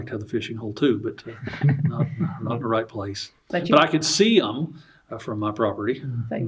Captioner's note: laughs